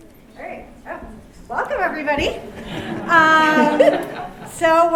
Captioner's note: laughter